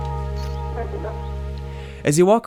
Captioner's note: electronic sounds